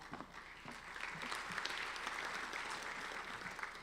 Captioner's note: applauding